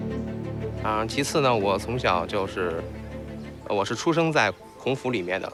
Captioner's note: hablan un idioma extranjero